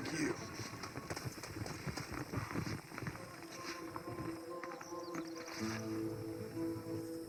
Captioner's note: screams of crickets and fires